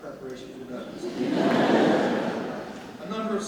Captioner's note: audience laughs